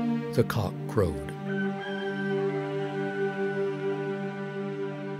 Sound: rooster crowing

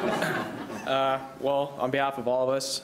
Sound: laughing

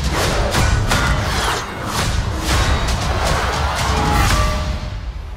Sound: clanking

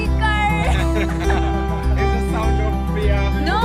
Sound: dink

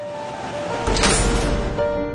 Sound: metal door slams shut

